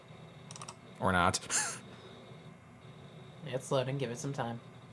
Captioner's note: laughs